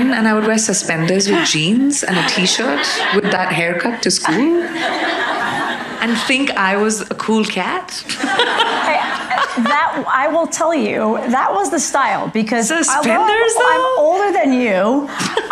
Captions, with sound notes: And I would wear suspenders with jeans and a t-shirt with that haircut to school and think I was a cool cat. (laughs) - Hey, that, I will tell you that was the style because I'm older than you. - Suspenders though?